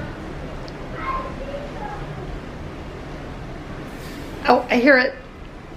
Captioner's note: child chattering